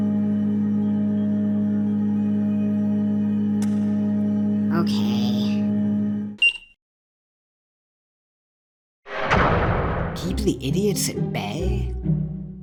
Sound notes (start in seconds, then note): 6.4 elevator beeps; 9.1 large door slams